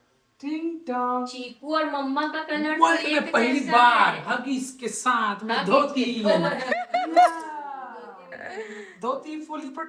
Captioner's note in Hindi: हंसी